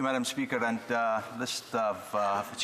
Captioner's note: speaking French